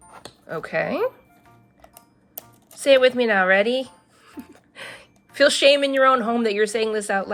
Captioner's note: laughs